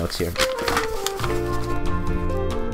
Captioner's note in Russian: звук шуршания бумагой; приятная музыка